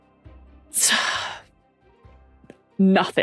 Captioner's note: sighs